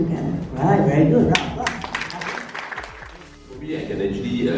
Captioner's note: applause